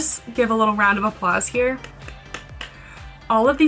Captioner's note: clapping hands